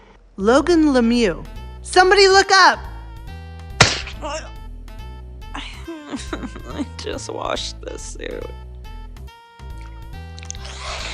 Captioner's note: sobs; grunts